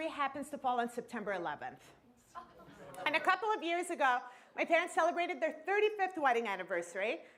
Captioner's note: laughter